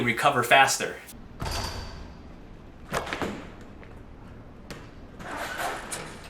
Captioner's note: ball going through hoop